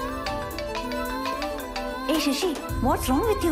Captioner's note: mobile ringing